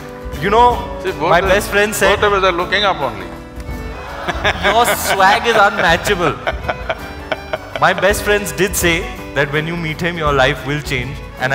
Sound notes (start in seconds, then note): 4.0 laughter; 6.5 Sadhguru laughs